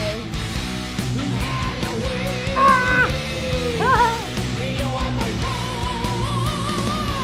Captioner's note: cawing and laughing